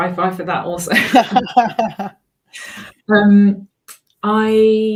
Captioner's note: laugh